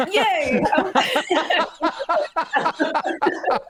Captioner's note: laughter